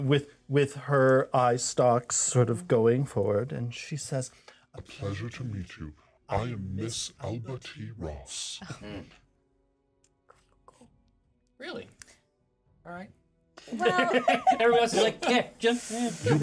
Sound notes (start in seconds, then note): 9.1 chuckles; 13.7 laughs